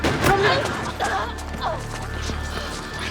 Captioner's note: gasps